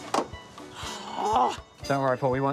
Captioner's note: sighs